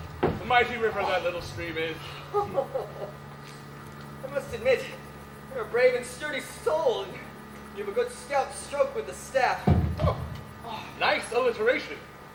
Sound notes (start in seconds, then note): 2.0 laughs